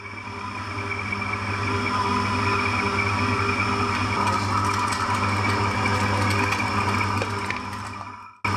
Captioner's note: machine whirring